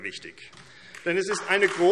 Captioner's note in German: Beifall AfD